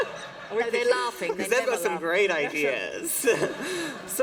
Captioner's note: laughter